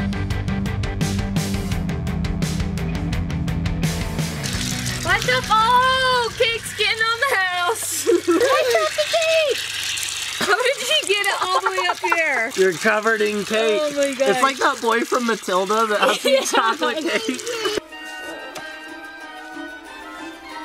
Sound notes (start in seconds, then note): 7.2 giggles; 15.9 laughs; 17.8 creepy music